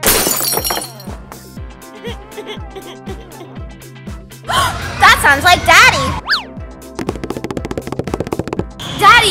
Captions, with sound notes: (crashes) (cries) - (gasp) That sounds like Daddy! (fast tapping)